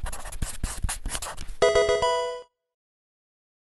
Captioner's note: marker scratching; electronic video game chime